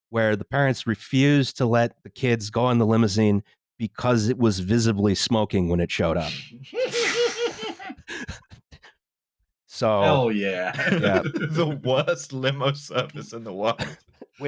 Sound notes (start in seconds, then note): 6.7 laughs nearly hysterically; 10.0 laughing; 10.6 laughter